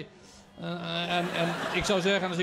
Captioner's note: laughter